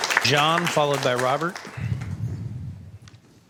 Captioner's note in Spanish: Aplausos